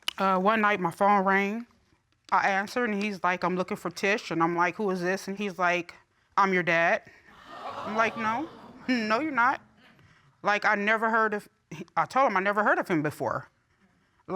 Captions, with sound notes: Uh, one night my phone rang. I answered and he's like, "I'm looking for Tish," and I'm like, "Who is this?" And he's like, "I'm your dad." -[audience exclaiming] -I'm like, "No, no, you're not." Like I never heard... I tell him I never heard of him before.